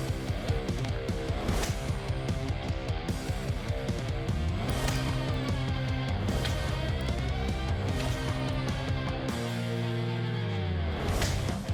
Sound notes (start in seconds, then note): 0.9 blow impacts